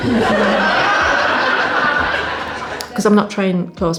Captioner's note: audience Laughs